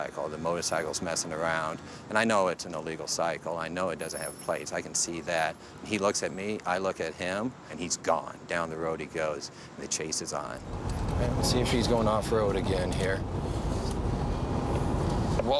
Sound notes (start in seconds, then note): none